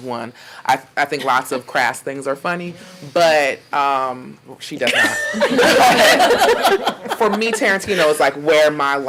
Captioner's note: laughing